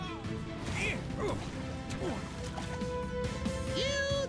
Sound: grunting

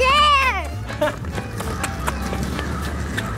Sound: laughs; whimsical music

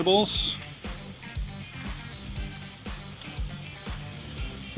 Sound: pan simmering

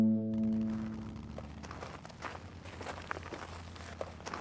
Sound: footsteps

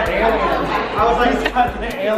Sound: laughs

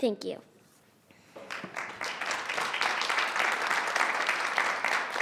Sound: audience clapping

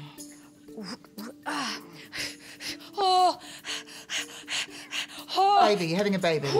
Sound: heavy breathing; groaning

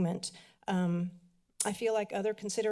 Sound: clicks tongue

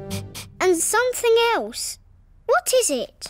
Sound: sniffs

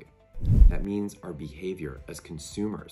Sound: swoosh

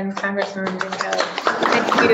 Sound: applause

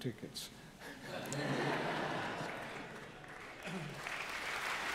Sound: congregation laughing; congregation clapping

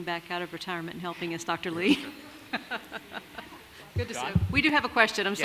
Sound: laughs

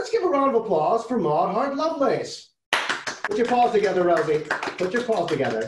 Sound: clapping

